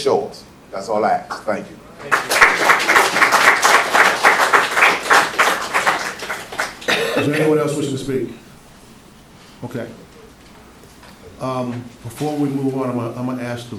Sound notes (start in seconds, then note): 2.0 applause